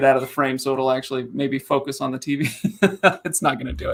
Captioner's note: laughing